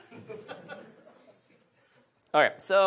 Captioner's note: audience laughs